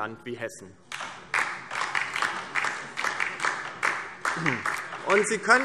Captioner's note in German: Beifall DIE LINKE